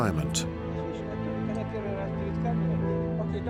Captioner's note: indistinct conversation in German